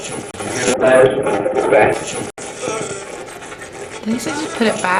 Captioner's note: radio voice; radio voice